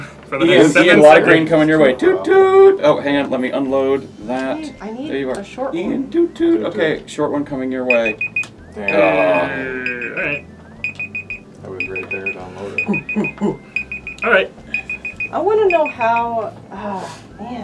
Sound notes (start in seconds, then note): 7.8 timer beeping